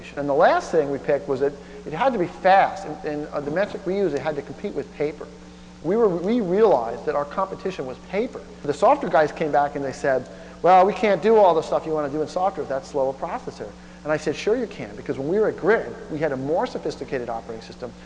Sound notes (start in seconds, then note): none